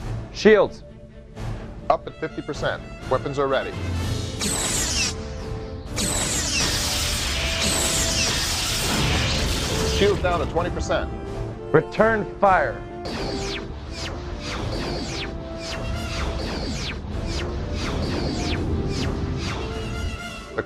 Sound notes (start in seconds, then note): 3.7 explosion